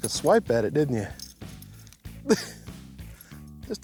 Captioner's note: laughs